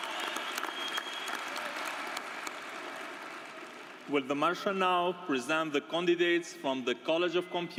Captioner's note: applause